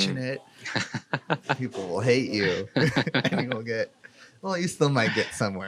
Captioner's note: laughs